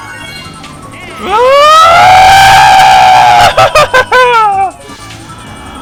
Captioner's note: screams of impending fall